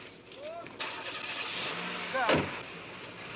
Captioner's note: car engine starts